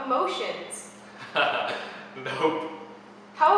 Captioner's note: chuckles